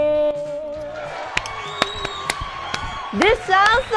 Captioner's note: applauds